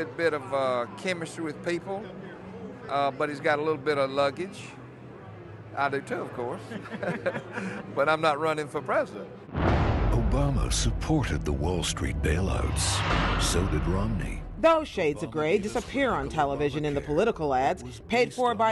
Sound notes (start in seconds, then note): 6.6 laughter